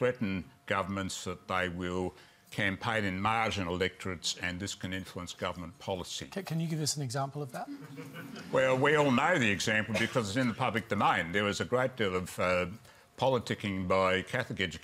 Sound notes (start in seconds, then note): 7.7 laughter